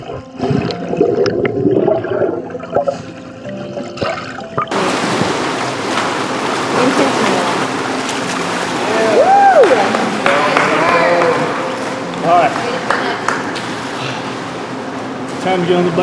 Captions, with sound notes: (water splashing) (group cheering) - All right, time to get on the bike.